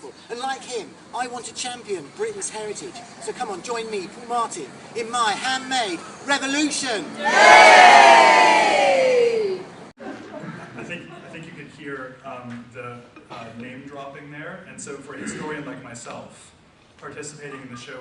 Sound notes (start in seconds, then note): 4.9 audience cheers; 8.1 audience laughs